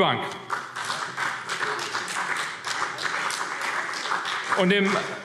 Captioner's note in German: Beifall CDU und vereinzelt BÜNDNIS 90/DIE GRÜNEN